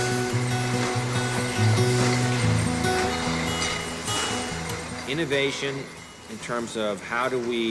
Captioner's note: beer bottles rattling